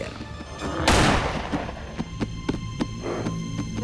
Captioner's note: gunshot